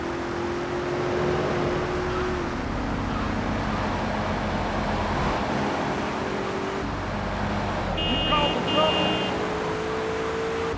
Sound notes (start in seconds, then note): 0.0 car engine roaring; 2.1 car beeping